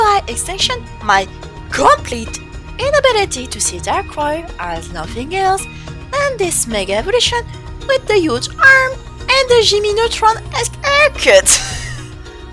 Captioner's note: laughs